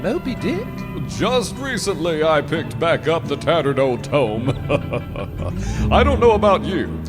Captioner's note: chuckles